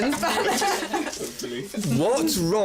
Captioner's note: laughs